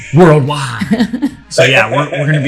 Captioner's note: laughter